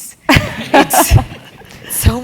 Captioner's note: laugh